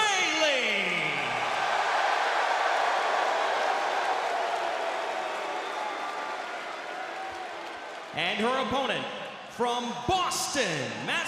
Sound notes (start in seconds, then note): 0.0 crowd cheering